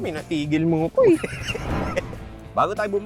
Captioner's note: laughs